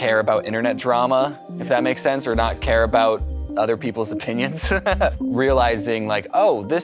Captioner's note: chuckles